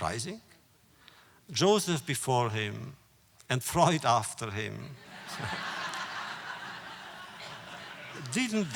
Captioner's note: laughter